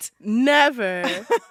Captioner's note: laughter